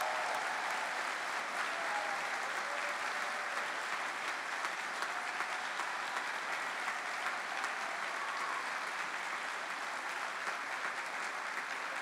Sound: cheering; cheering and applause

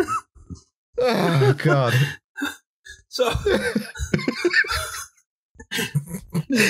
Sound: we keep laughing

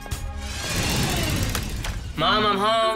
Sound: whirring

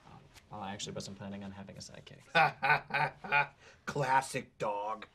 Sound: laughs

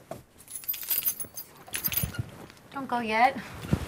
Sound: keys jingling

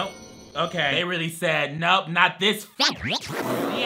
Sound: laughs

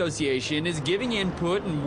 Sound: / :nats of cars

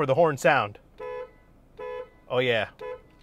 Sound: car horn honks

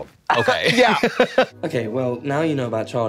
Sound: Katya giggles

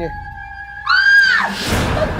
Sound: shouts

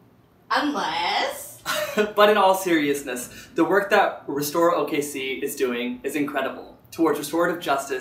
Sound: laughs

